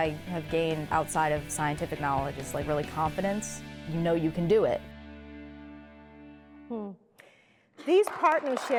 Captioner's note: applause